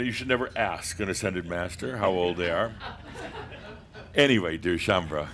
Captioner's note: a few chuckles